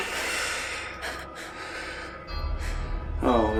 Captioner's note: evil chuckle; fearful breathing